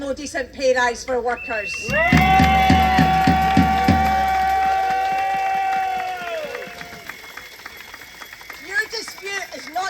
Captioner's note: cheering